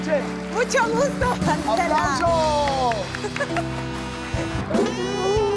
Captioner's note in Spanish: Ríe